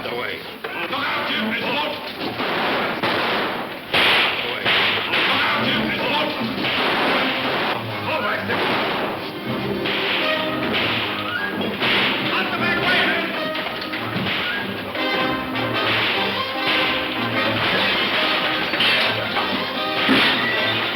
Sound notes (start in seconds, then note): 0.2 men shouting; 1.8 guns firing; 5.0 men shouting; 5.8 guns firing; 13.1 guns firing; 13.1 suspenseful music